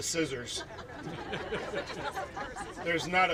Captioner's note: laughing